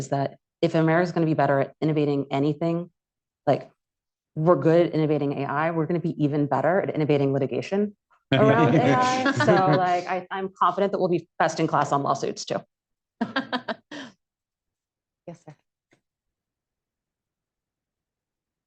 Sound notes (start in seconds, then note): 8.3 laughter; 13.2 laughter